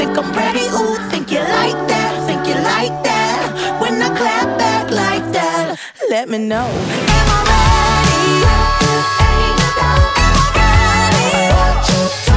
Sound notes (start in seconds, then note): none